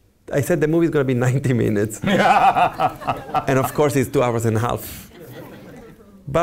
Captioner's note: laughs